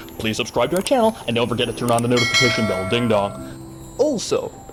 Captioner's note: ding dong